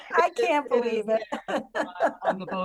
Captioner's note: laughter